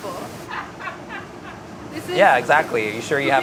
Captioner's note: laughing